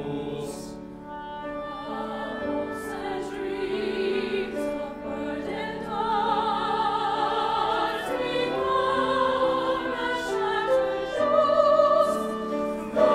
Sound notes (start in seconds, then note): 1.5 high voices